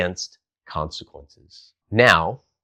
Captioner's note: beat